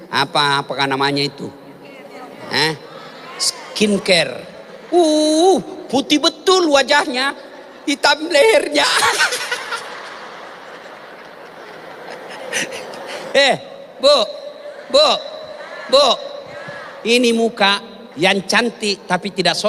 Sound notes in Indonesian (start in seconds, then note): 12.6 tertawa